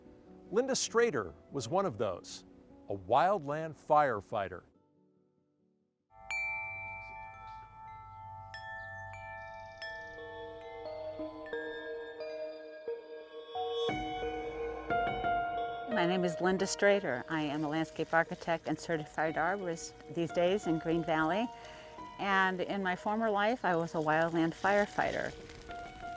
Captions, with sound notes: Linda Strader was one of those, a wildland firefighter. (wind chimes dinging) (birds chirping) (soft piano music) - My name is Linda Strader, I am a landscape architect and Certified Arborist these days in Green Valley, and in my former life I was a wildland firefighter.